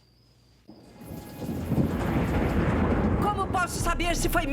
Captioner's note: thunder